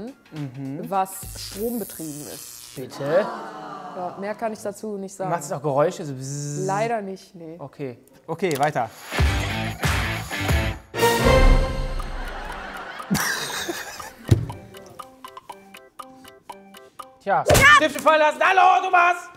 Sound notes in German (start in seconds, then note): 9.0 Rockige Musik; 12.1 Lachen; 14.4 Abwartende Musik